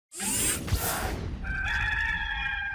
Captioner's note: whirring; rooster crowing